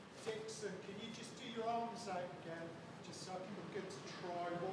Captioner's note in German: Englische Gesprächsfetzen